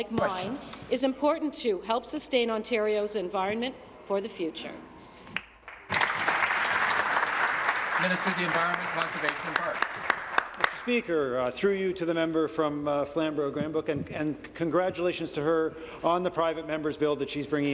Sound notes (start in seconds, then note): 7.5 applause